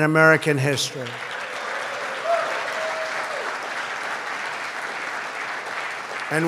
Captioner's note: applause